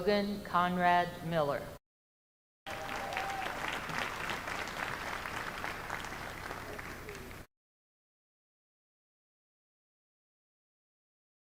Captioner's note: applause